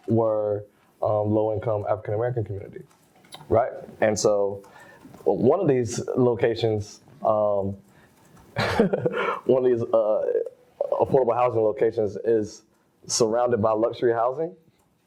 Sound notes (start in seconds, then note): 8.5 laughs